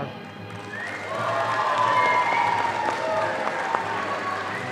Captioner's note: audience applauding